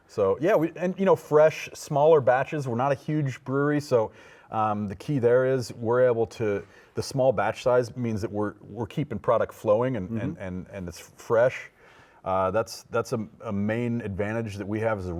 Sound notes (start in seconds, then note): none